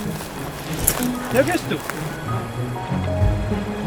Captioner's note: speaking German